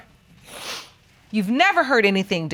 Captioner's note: sniffing